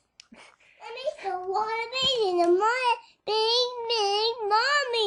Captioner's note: toddler speaking